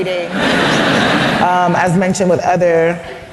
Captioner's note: laugther